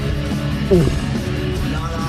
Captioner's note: gulp